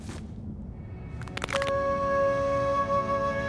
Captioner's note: cracking